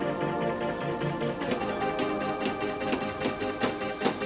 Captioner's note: metal thudding